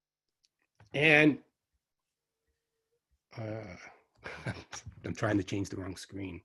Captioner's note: chuckles